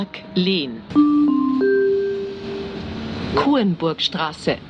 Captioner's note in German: Gong